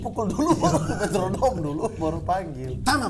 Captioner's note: laughing